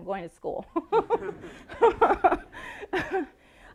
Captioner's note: laughing